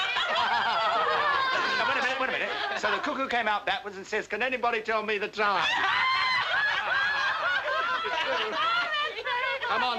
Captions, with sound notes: [everyone laughing] Wait a minute, wait a minute. So the cuckoo came out backwards and says, "Can anybody tell me the time?" [everybody laughing]